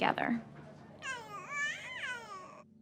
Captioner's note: baby coos